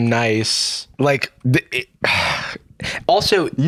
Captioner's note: sighs